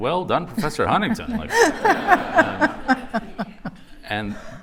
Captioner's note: laughter